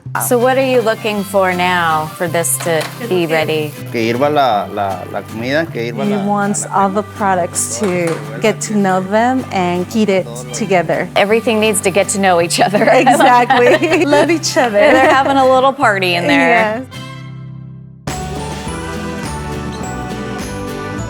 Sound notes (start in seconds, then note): 4.1 speaks Spanish; 18.0 light music